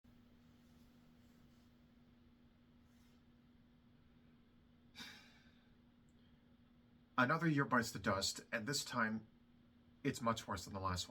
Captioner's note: sigh